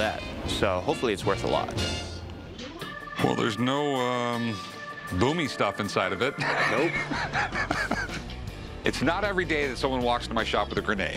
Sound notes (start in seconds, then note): 6.2 laughs